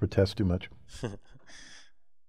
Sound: laugh

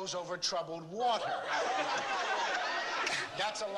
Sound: laughter

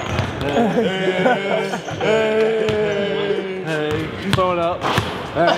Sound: laughing

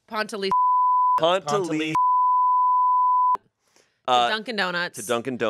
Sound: beep

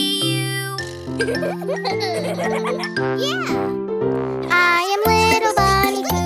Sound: kids chuckling

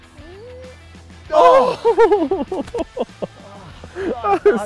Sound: all laugh

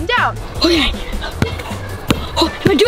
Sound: ball bouncing

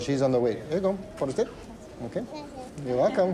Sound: Spanish

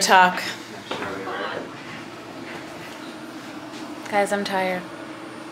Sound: person sighs

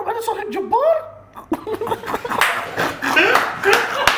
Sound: laughs

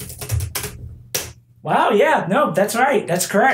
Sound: typing

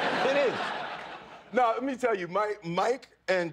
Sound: laughter

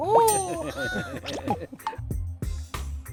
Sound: laughing

